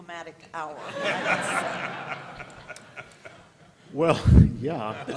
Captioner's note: laughter